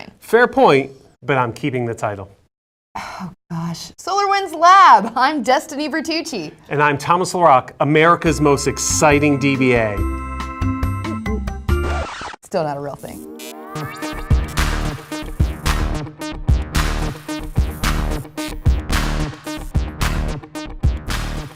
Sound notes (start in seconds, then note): 11.8 record needle drag; 13.2 electronic rock music